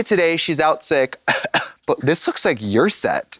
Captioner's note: coughs